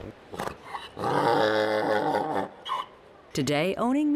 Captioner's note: braying Mule